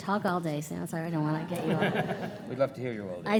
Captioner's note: audience laughing